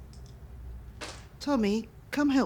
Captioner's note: dice clattering